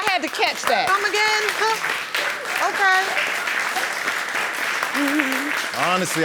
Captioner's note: audience applauding